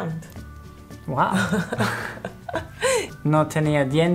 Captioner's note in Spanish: Ambos ríen